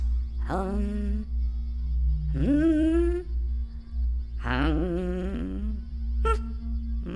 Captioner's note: emotive melodic humming